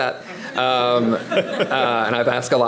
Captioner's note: audience laughing